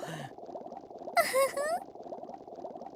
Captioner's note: giggle